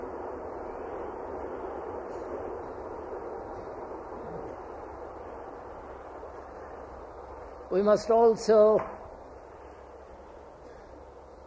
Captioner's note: sound of train